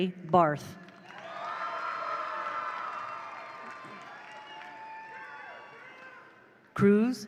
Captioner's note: attendees applaud; attendees cheer